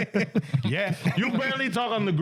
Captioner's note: laughing